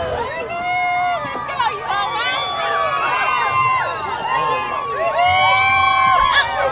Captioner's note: cheering crowd; cheering crowd